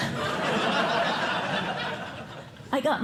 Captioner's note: laughter